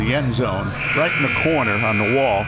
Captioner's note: buzzer